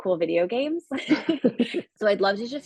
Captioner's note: chuckle